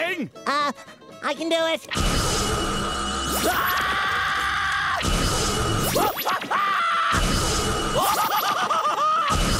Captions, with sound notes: Uh. I can do it. [screaming] [screaming] [screaming]